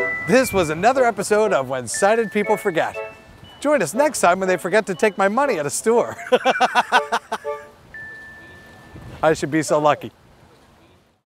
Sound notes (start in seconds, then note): 6.1 laughs